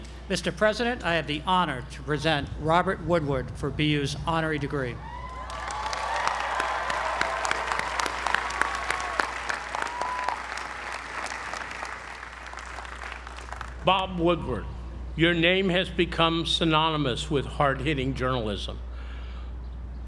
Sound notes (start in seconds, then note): 5.3 applause